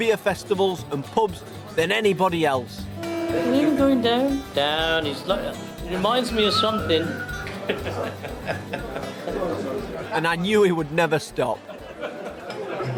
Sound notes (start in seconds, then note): 7.5 chuckles